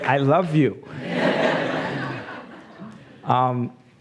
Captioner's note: laughs